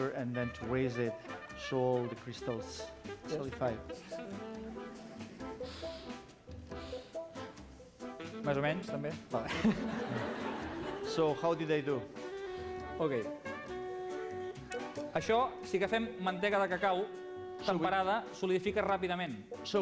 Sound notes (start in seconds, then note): 9.3 non-english speech; 16.8 non-english speech